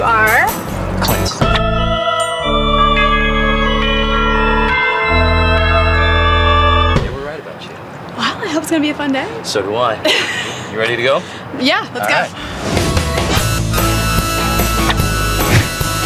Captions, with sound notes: - You are? - Clint. (church organ music) They were right about you. - Well I hope it's gonna be a fun day. - So do I. (laughing) You ready to go? - Yeah let's go. - Alright. (rock music)